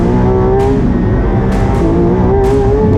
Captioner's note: engine revving; dramatic music